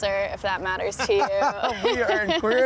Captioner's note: chuckles